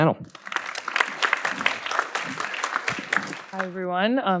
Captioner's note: audience applauding